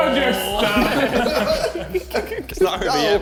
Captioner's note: men laughing